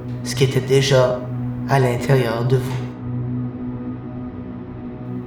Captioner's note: none